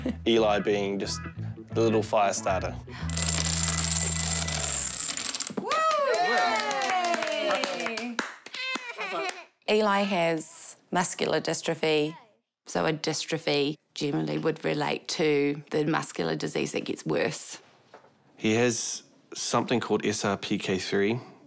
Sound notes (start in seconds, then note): 0.0 chuckles; 2.9 gasps; 8.6 giggles